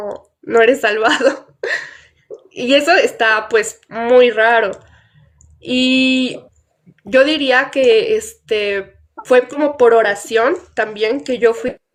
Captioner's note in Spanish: risas